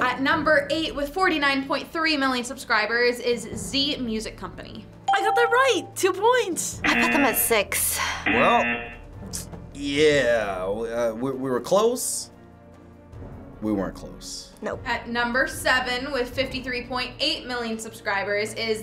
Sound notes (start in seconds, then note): 5.0 bell rings; 8.2 buzzer rings